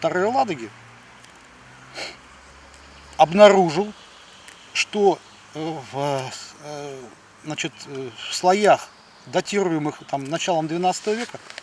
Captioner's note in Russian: фыркает